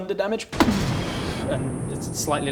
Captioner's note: booooommmm